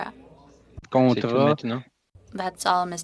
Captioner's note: speaking French